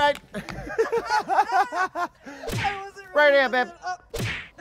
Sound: laughing

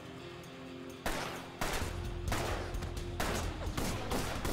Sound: rock music; guns firing

